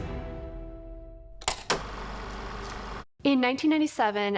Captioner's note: film reel flapping